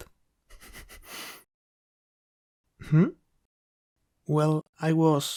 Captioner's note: still snickering